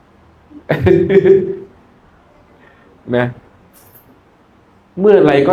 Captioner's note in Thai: เสียงหัวเราะ